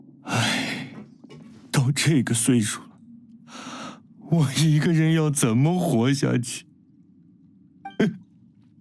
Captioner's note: sigh; sobbing